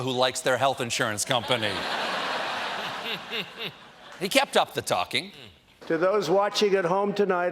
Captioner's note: laughter